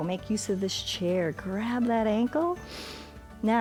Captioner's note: inhales